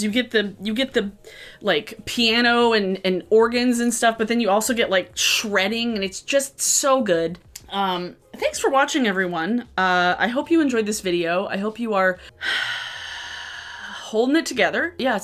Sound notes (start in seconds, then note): 12.2 exhales